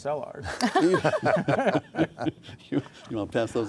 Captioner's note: laughing